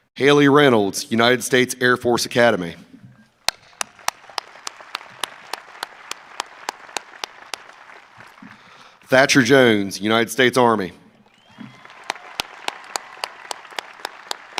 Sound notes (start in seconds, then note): 3.5 audience applauding; 11.2 audience applauding